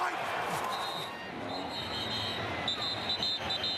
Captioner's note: whistle